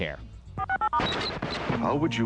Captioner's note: static/channel changing